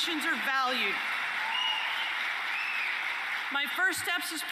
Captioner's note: applause and cheering